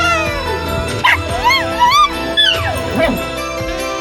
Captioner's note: Caprice yowls and hisses; barks